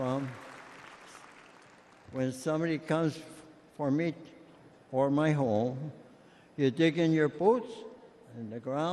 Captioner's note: applause